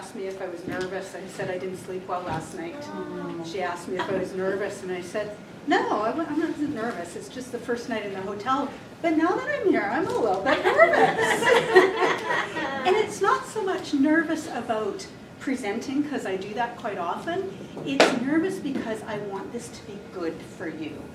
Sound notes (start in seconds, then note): 2.9 audience groans; 10.4 laughter